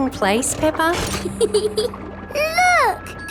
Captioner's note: peppa giggles